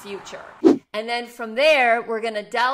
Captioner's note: whooshing